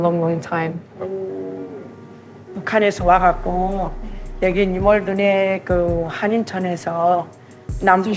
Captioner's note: speaking Korean